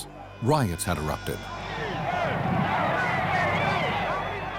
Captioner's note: indistinct shouting